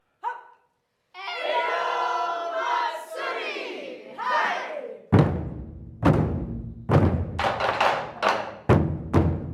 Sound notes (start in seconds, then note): 0.8 chanting; 5.1 rhythmic drumming